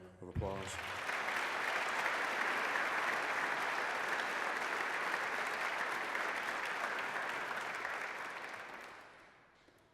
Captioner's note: applause